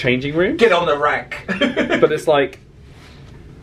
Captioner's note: laughs